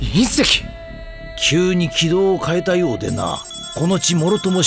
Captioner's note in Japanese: バング